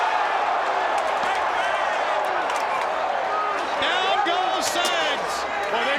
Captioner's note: crowd cheering